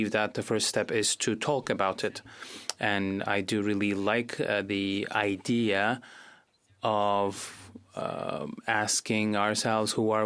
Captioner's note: speaking in Fr